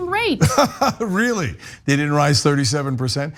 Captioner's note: laugh